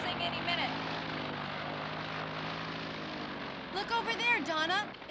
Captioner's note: engine whirring